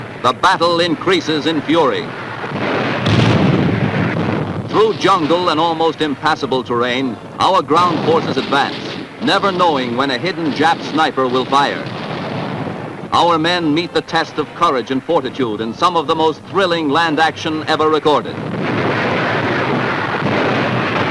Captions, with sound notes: The battle increases in fury. (booming) Through jungle and almost impassable terrain, our ground forces advance, never knowing when a hidden Jap sniper will fire. Our men meet the test of courage and fortitude in some of the most thrilling land action ever recorded. (booming)